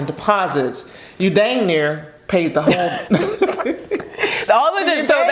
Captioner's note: both laughing